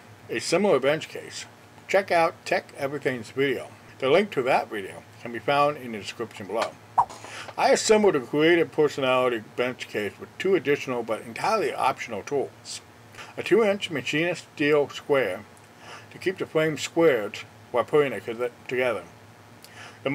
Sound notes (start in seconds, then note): 7.0 swipe Sound